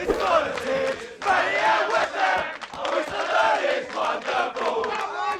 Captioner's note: sports fans cheering indistinctly